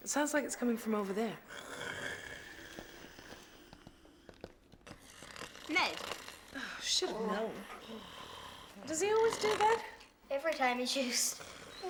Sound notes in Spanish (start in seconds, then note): 1.4 ronquidos; 8.6 ronquidos